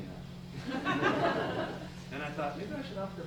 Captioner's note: laughter